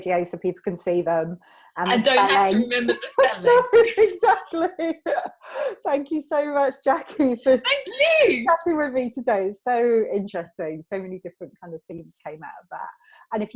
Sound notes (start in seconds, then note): 3.6 both laughing